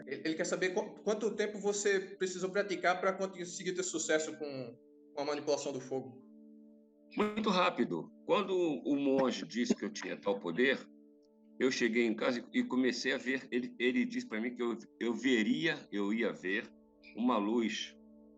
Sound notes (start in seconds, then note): 1.4 translating in Portuguese